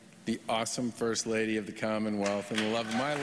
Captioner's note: applause